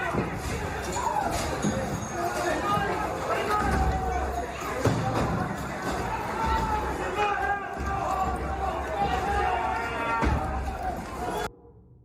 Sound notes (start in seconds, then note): 0.0 banging; 2.9 yelling